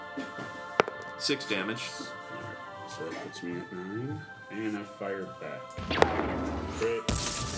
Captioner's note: rolls dice